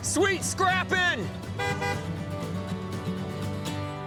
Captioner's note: honks horn